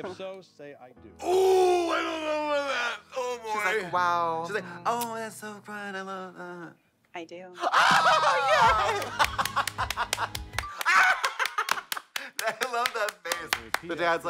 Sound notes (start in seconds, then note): 7.6 blonde women hee-haw; 9.3 Katya hoots